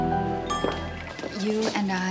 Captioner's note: glasses clink